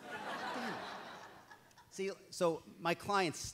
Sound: audience laughs

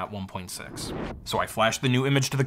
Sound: transition whooshes

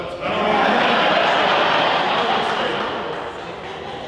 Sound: audience laughing

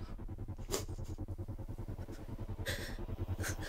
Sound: crying

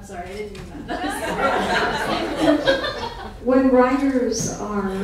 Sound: laughing

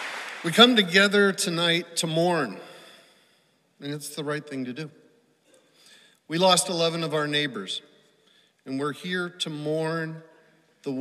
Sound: applause

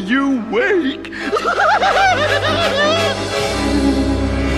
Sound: maniacle laughter

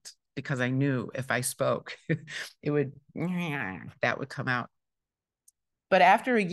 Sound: mumbles

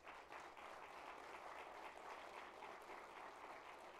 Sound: applause

